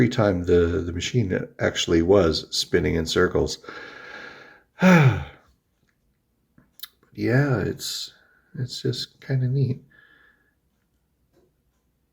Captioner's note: sighs